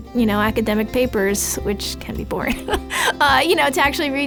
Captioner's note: laughs